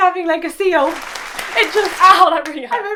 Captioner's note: applause